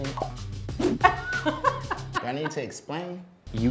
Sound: girl laughs

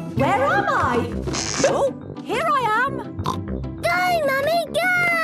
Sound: pops

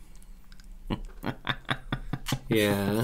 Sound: evil Laugh

